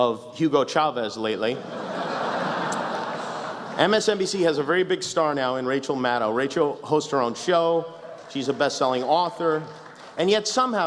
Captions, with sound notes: ...of Hugo Chavez, lately. [laughter] MSNBC has a very big star, now, in Rachael Maddow. Racdhael hosts her own show, she's a best selling author, and yet somehow,